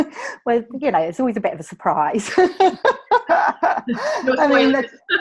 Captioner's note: laughs